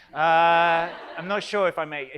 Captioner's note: audience laughs